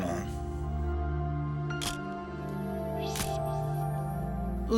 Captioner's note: camera shutter click